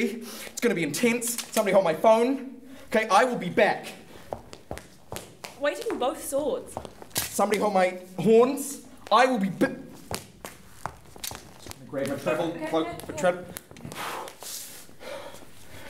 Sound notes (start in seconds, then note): 4.3 firm footsteps; 6.6 rushing footsteps; 10.0 footsteps; 13.7 deep breathing